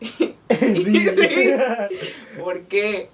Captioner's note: jajaja